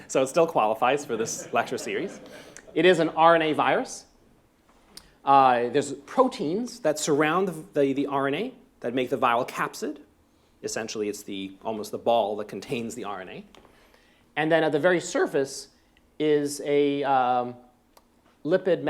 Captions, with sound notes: so it still qualifies for this lecture series. [LAUGHTER] It is an RNA virus. There's proteins that around the RNA that make the viral capsid-- essentially it's almost the ball that contains the RNA. And then at the very surface is a lipid